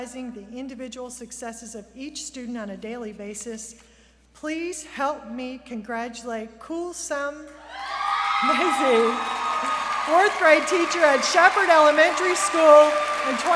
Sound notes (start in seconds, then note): 7.6 cheers; 7.8 applause